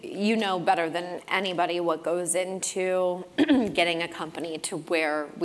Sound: cough

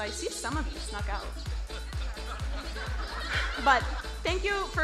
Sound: crowd laughing

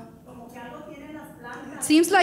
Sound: speaking in foreign language

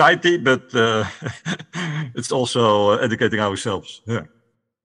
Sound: laughs

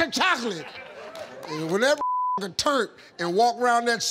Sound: beep

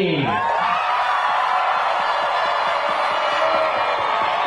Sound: audience cheering

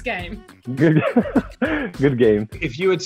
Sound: Joe laughs

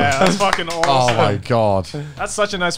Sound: clapping

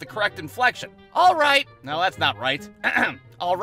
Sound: clears throat

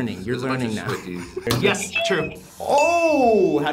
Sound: buzzer rings

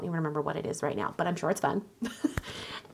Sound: laughs

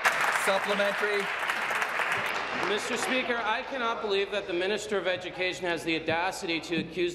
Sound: applause

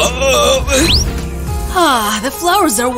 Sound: sniffs

